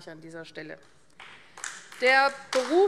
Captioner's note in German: Beifall AfD